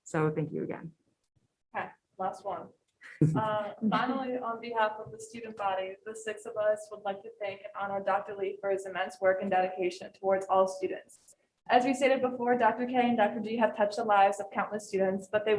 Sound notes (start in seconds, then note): 3.2 group member chuckles